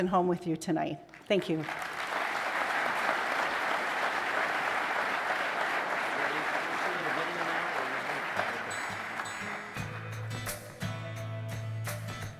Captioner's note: applause